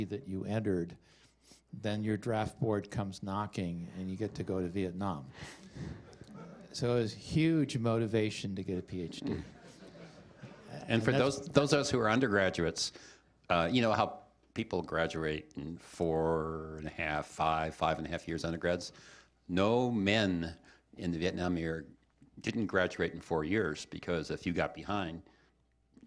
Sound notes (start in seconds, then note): 9.1 laughter